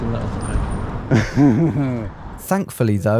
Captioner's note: laughs